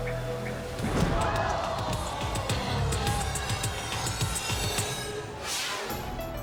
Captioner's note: tense dramatic music; impact pounds; crowd gasping